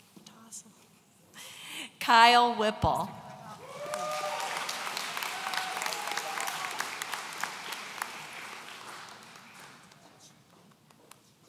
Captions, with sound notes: Kyle Whipple. (audience applauds)